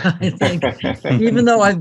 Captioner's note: all laughing